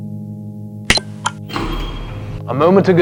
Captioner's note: button beeps; dumbwaiter clanks